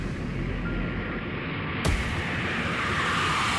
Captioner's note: airplane engine roaring